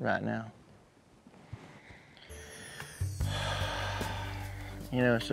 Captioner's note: sighs